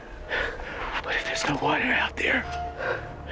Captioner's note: mr. evans says in weak voice